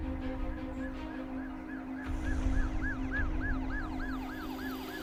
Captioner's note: siren wailing